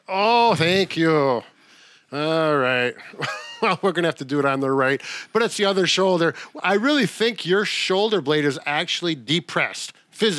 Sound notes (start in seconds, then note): 3.0 chuckles